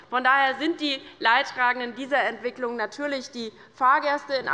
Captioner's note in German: none